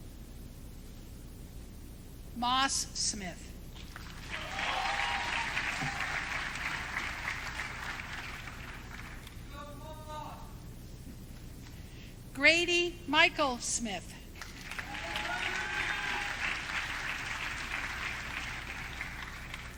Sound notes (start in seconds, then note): 16.0 audience cheering